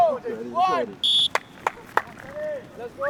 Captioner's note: whistle